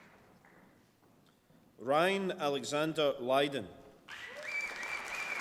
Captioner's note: applause